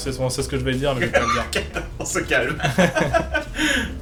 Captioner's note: laughing* let's calm down